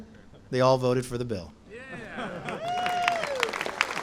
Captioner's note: applause